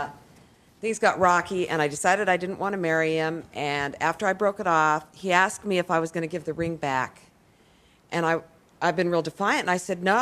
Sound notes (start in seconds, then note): none